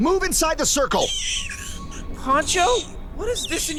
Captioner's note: creature screeching